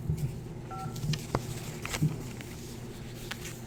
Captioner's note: phone beeps